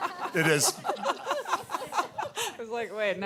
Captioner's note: audience laughing